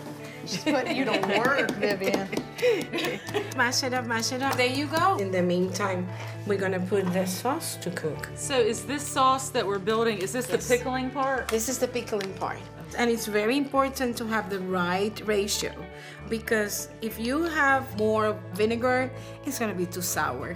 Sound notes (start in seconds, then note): 2.2 all laughing